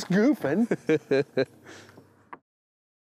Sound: laughs

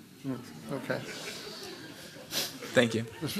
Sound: laughter

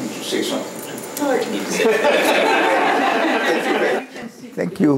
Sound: laughter

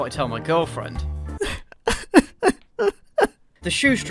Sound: sob

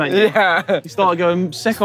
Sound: chuckling

